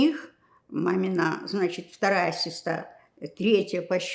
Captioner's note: counting